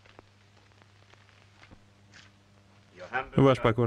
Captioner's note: floor pattering